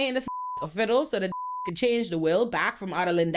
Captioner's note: beep